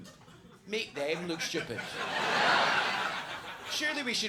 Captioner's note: audience laughs